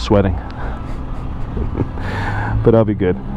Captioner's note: laughs